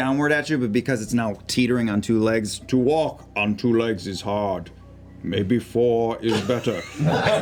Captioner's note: Dr. Moreau voice; laughter